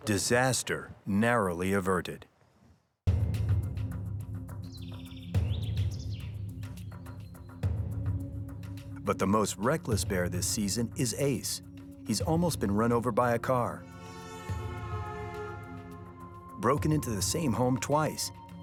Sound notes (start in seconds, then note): 3.1 tense music; 4.8 birds chirping; 13.8 horn blaring